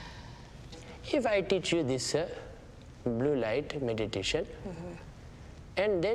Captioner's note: none